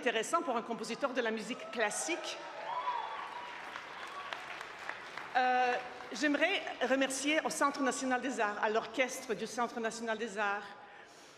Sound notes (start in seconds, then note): 1.9 speaking French; 7.1 applause